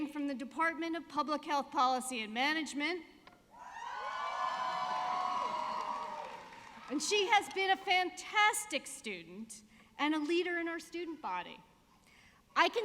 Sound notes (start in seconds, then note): 3.6 audience cheering